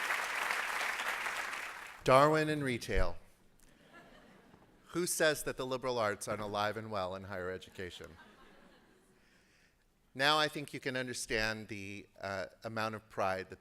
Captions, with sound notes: Darwin in retail. [LAUGHTER] Who says that the liberal arts aren't alive and well in higher education? Now, I think you can understand the amount of pride